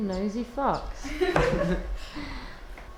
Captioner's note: everyone laughs